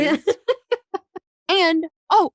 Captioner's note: laughing